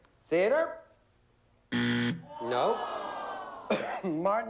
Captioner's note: buzzer